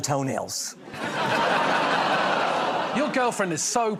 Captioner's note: laughter